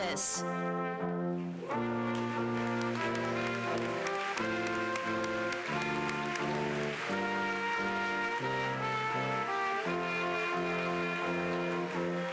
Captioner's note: applause